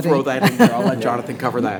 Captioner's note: laughing